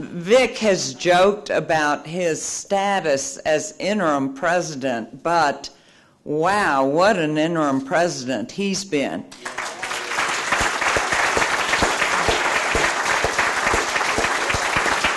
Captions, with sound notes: Vic has joked about his status as interim president, but wow what an interim president he's been. (applause)